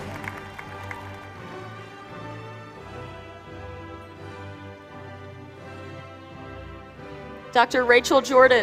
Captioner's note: applause